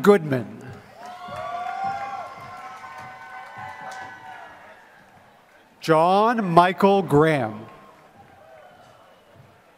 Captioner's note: applause